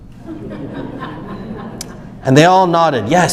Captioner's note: audience laughs